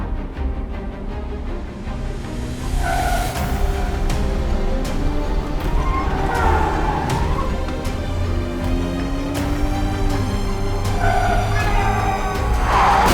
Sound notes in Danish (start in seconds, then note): 5.7 tuder